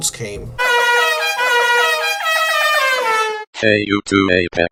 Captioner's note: car horn